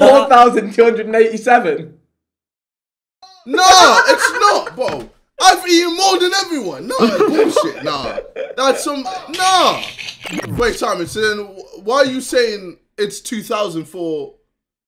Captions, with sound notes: which was the original number we got. (laughing) So yeah, you got 600, 700 calories of rice. - No, no. (all laughing) - It says right here. - No no no no, bruv look, I'm on Kazoo rice,